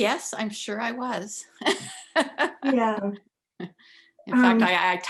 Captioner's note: laughs